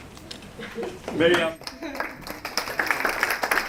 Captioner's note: applause